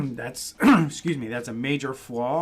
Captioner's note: clears throat